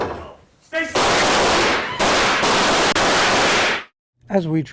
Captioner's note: gun shots